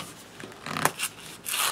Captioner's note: tearing